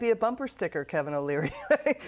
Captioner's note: laughter